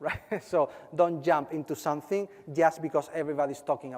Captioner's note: laugh